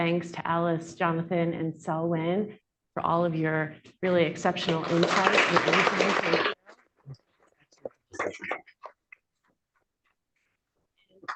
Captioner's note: applause